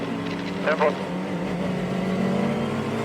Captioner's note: engines rumbling